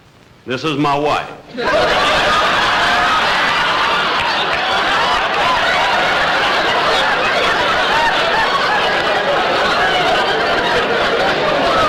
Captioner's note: audience Howling